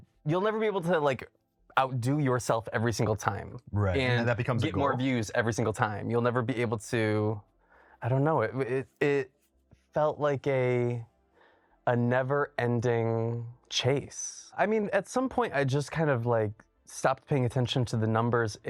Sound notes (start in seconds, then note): none